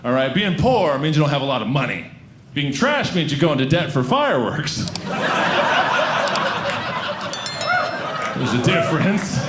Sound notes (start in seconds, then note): 5.0 audience laughing